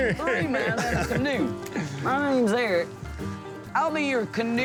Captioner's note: laughing and chatter